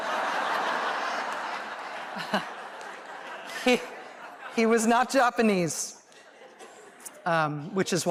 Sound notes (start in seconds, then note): 0.0 laughter